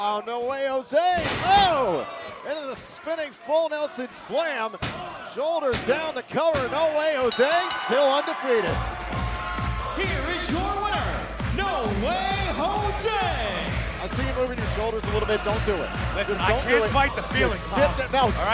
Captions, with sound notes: >> UH-OH! NO WAY JOSE, OH! INTO THE SPINNING FULL NELSON SLAM. SHOULDERS DOWN,S COVER. [BELL RINGING] NO WAY JOSE STILL DEFEATED. >> HERE IS YOUR WINNER, NO WAY JOSE. >> I SEE YOU MOVING YOUR SHOULDERS A LITTLE BIT. DON'T DO IT. DON'T DO IT. >> I CAN'T FIGHT THE FEELING, TOM.